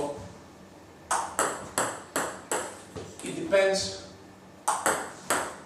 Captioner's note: ball ping pong hitting